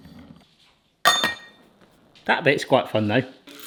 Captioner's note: metal clanging